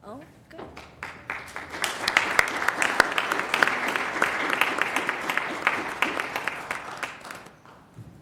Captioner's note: applause